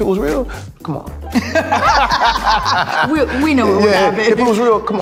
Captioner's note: both laughing